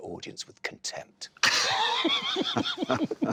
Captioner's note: laughter